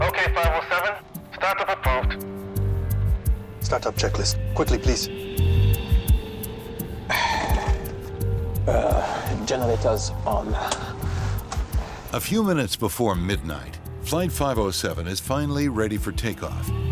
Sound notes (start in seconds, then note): 2.9 upbeat music; 5.5 upbeat music; 7.0 sighs; 11.2 clicking